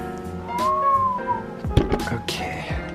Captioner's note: whistles